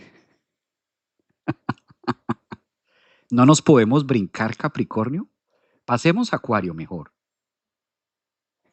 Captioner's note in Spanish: risas